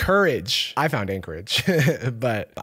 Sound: chuckles

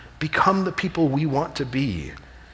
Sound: none

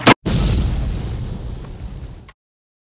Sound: boom!

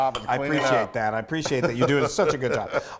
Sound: laugh

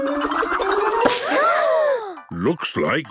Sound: all gasping

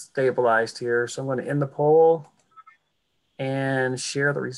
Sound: clicking

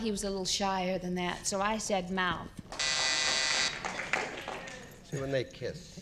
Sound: buzzer blares

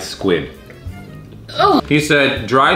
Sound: groans

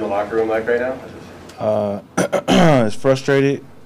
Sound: man sighs

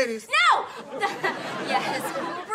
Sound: shouts

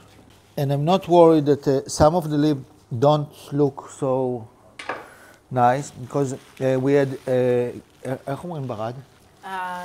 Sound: speaks Hebrew

